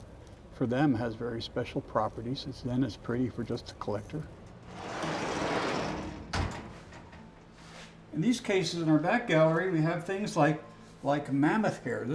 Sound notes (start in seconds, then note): 4.6 door rattling